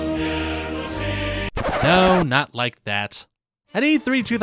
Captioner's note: record scratch